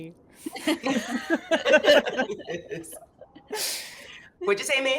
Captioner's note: characters laugh